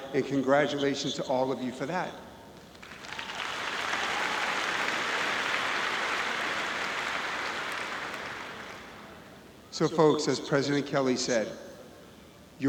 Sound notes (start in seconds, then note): 2.6 audience clapping